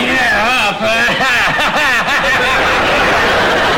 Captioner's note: laughs